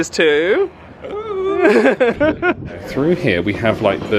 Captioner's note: laughs